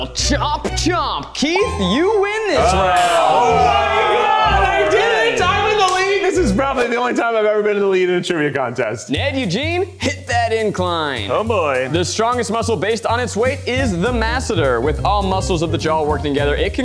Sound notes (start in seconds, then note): 2.8 exclamations in unison